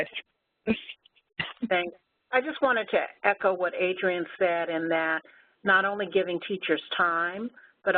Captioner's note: laugh